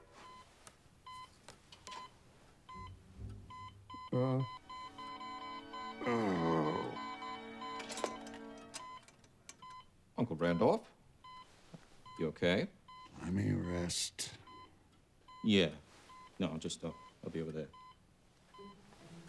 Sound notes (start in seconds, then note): 3.5 beeping increases rapidly; 4.5 Randolph groans